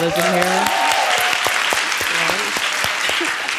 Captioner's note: applause